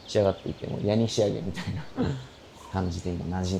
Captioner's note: laughs